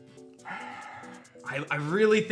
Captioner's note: sighs